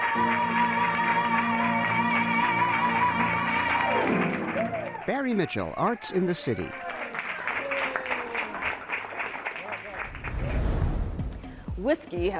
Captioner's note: applause